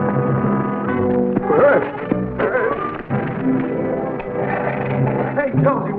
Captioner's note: Jonsey yelps and falls; metallic scraping